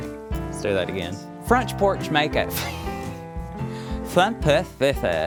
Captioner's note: laughs